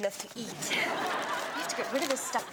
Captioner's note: audience laughs